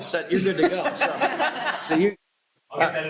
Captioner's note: laughter